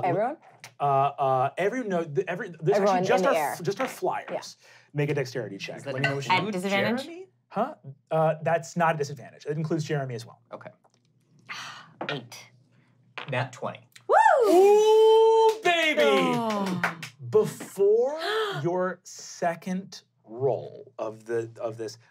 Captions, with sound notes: - Everyone? - No, those two, just our fliers. Make a Dexterity check. - At disadvantage? - Does that include J'er'em'ih? - That's not a disadvantage. - It includes J'er'em'ih as well. - Okay. - Eight. - Nat 20. (cheers) - Woo, baby! (clapping) Before your second roll of this,